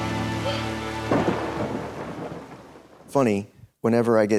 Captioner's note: thunder cracks